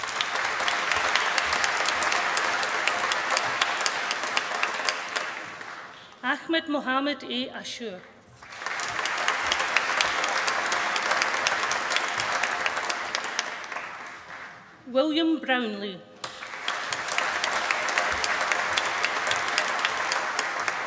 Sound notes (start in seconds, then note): 0.0 applause; 7.9 applause; 16.2 applause